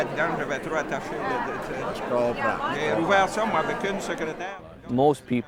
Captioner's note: men continue speaking in French